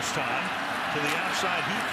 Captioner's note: pa announcement